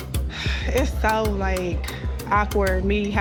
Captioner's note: sighs